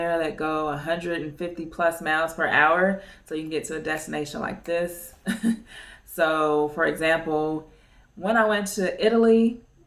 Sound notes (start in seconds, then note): 5.2 chuckles